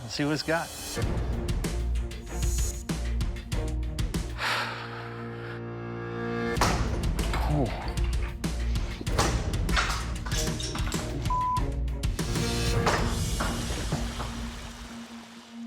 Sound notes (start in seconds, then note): 3.5 sighs; 6.6 knife hits